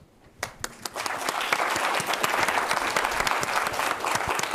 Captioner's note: everyone applauding